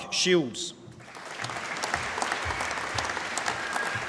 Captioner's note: applause